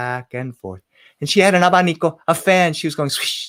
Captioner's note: spoken in foreign language